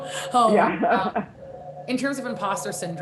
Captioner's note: laughing